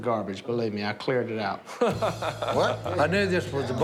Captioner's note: laughs